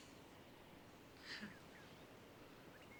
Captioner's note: chuckles